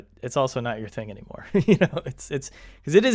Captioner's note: chuckles